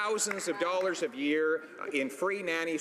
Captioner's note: some Applause